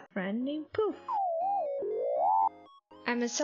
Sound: insert ADORABLE little robot noises :3

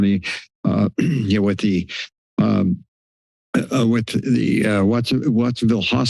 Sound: clears throat

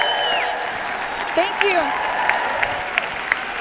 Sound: cheers

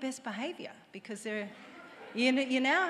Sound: audience laughs

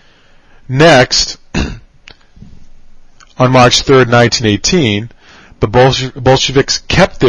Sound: cough

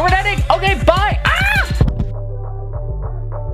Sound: screams

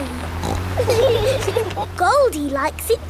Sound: laughing

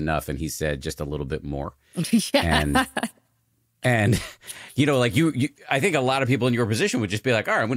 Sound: laughing

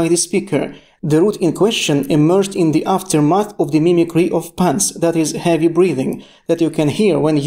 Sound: that is heavy breathing

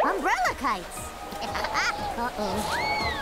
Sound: laughing

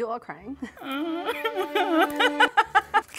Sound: crying; laughing

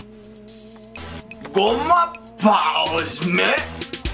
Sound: speaking fake Japanese

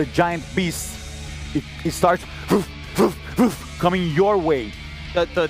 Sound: snorting

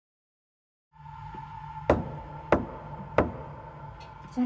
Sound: knocking

